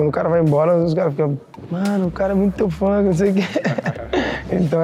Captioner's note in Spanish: se ríe